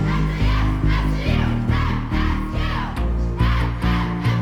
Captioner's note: team chants